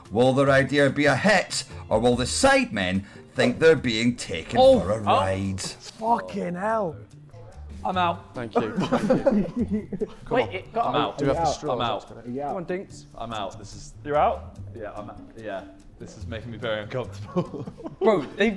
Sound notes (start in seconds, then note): 4.5 Sidemen exclaiming; 8.5 Sidemen laughing